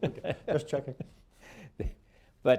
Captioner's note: laughter